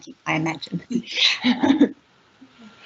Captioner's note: both chuckle